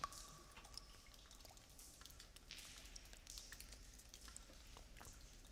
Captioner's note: cave water dripping